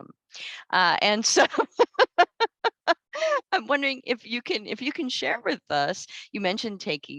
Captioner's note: laughs